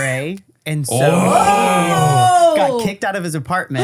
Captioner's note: holler